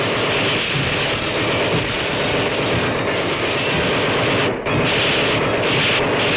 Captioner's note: electricity zaps; bullets popping